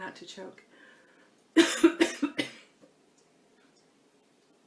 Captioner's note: coughs